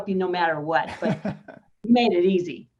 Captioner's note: laughing